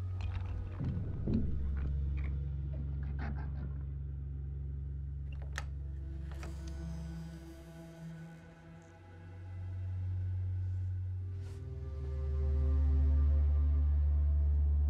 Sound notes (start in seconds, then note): 0.0 objects rattling; 3.5 creature snarls; 6.2 door creaks